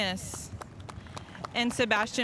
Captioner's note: spectators applauding